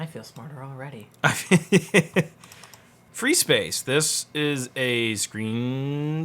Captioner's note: laughs